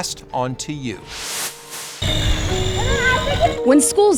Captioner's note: air whooshing